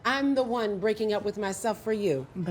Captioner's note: none